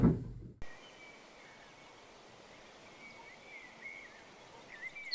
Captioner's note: bird sounds